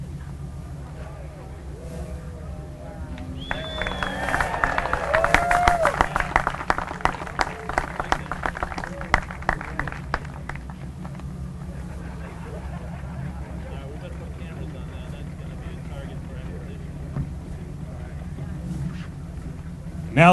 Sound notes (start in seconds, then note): 3.4 applause and cheering